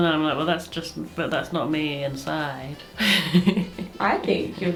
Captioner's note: laughs